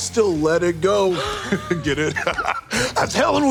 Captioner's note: chuckles; laughs